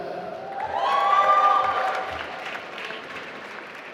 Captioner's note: applause